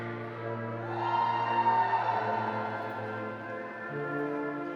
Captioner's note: audience cheering